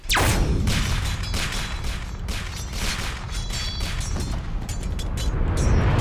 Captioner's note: video game Gunfire and Sword Clanging